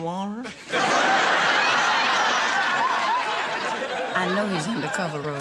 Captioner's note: audience laughing